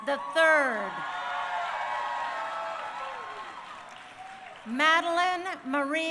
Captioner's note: crowd cheering